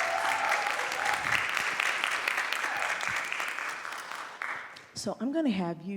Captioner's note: applause